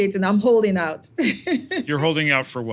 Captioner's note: laugh